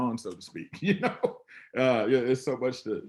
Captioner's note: laughing